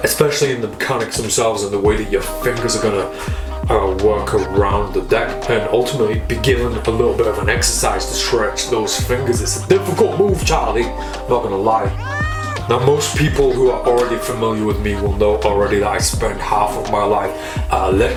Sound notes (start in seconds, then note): 11.8 baby crying